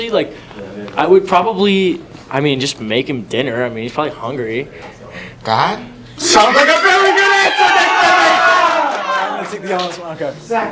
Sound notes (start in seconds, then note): 6.2 red team cheers; 6.2 cheers